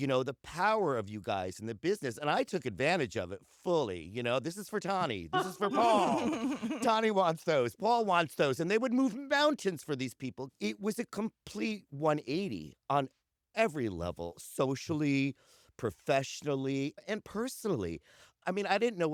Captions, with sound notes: You know, the power of you guys in the business. And I took advantage of it fully. You know — “This is for Tonne. This is for Paul.” [laughter] “Tonne wants those. Paul wants those.” And they would move mountains for these people! It was a complete one-eighty on every level. Socially, professionally, and personally. I mean, I didn’t know